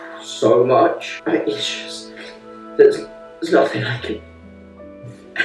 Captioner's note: stuttered speaking